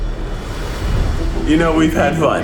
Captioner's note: whoosh; dramatic music